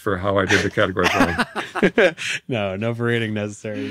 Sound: hosts laughing

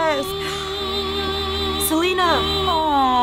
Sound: gasps

